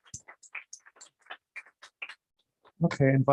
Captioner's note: applause